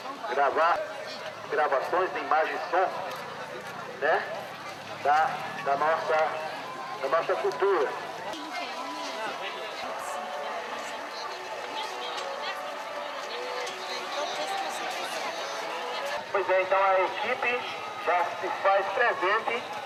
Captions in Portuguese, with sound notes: Gravar gravações de imagem e som [Burburinho de feira] da nossa cultura. [Burburinho de feira] [Burburinho de feira] [Voz no alto-falante] Pois é, então a equipe já se faz presente